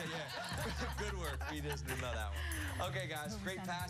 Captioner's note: laughter